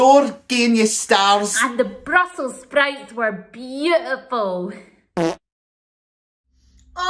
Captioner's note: farts